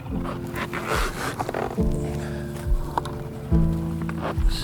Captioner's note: object creaks